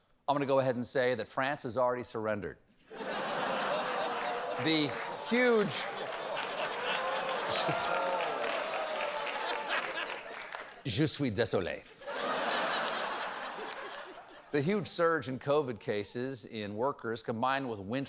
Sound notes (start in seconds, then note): 3.9 laughter